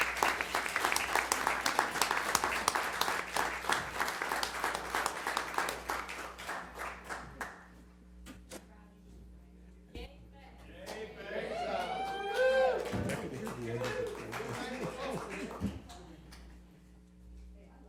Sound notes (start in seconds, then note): 10.9 applause